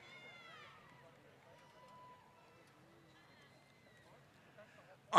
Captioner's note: applause